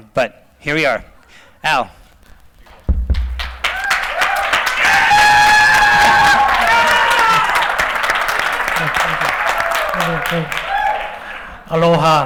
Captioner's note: applause